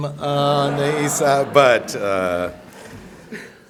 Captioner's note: laughter